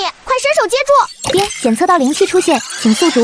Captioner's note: ding!